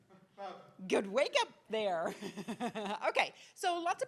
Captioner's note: laughs